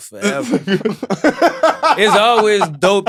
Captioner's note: laugh